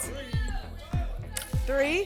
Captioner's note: audience shouting numbers